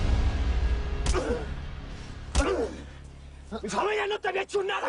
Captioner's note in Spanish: Golpes